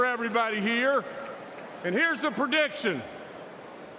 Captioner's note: applause